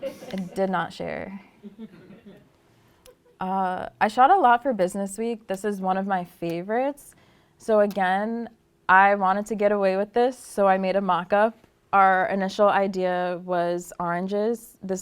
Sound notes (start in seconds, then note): 1.6 laughter